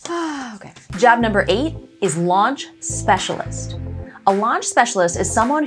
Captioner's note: sighs